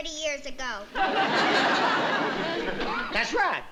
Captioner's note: laughter